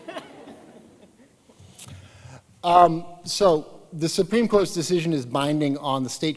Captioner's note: laughter